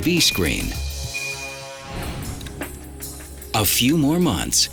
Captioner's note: digital beeps